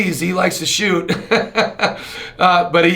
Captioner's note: chuckles